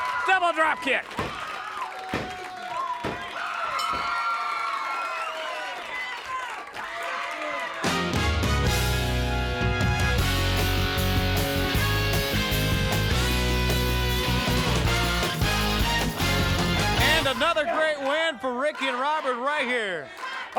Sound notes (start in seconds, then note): 3.8 bell dings; 7.9 upbeat music